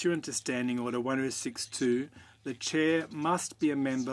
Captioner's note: speaking French